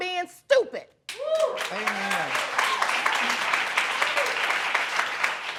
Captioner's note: applause